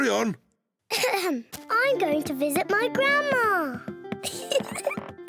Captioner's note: clears throat; giggles